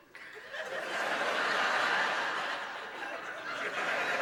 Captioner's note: laughter